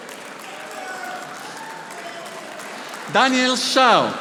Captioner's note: audience applauding